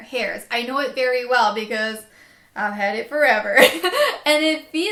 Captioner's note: laughs